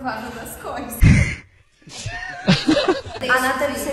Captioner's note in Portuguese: risos